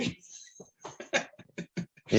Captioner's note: laughs